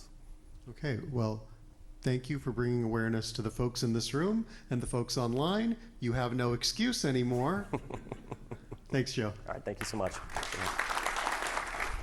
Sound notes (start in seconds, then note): 7.3 chuckles; 9.7 audience clapping